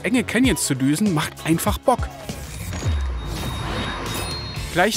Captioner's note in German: Ingame-Geräusche